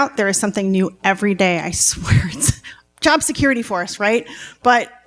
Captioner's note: none